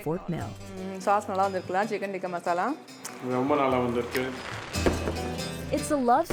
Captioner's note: couple speaking in foreign language